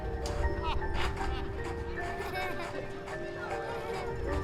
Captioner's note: laughter